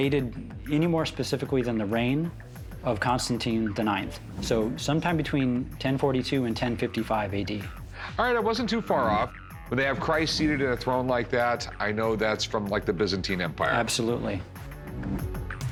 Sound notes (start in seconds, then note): none